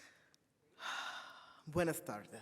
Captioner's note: sighs